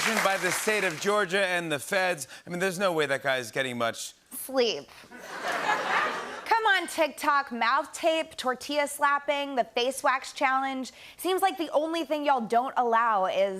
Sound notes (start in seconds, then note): 5.1 laughter